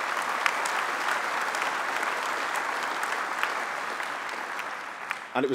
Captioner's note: applause